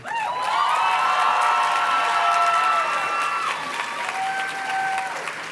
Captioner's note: audience cheers and claps